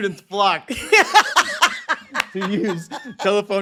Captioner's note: laughs